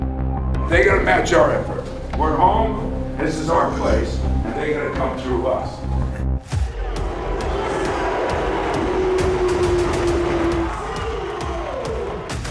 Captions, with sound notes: They're gotta match our effort. We're home, this is our place and they gotta come through us. (upbeat music) (crowd cheering)